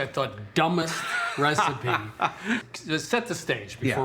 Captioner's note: laughs